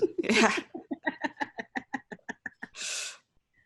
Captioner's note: laughs